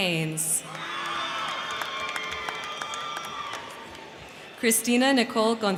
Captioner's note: crowd cheering; crowd clapping